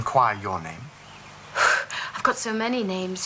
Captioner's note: exhales sharply